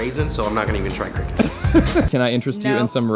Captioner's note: laughing